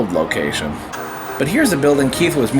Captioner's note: white noise scratching